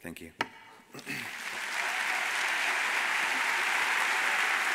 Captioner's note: audience applauds